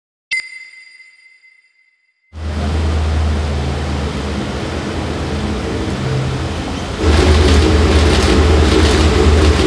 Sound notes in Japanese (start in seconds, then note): 0.1 ピックアップ 効果音; 2.3 車のエンジン音; 7.1 カメラのシャッター音